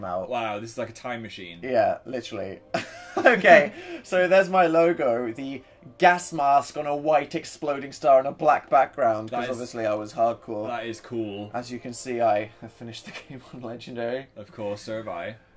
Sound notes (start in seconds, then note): 2.8 laughs